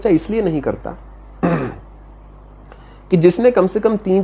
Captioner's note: coughs